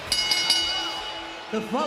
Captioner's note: bell rings